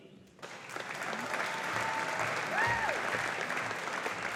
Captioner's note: audience applauding